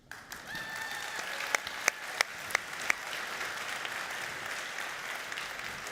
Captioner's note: audience cheering and applauding